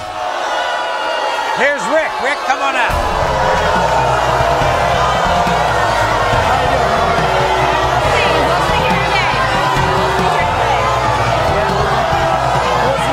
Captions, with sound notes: (audience groaning) - Here's Rick! Rick, come on out! (audience booing) - We'll see.